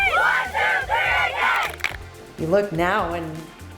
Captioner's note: team claps